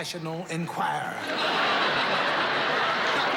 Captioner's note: laughter